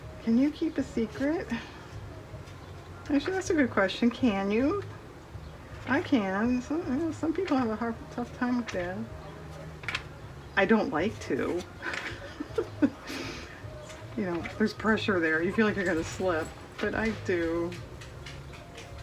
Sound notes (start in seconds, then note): 11.4 laughs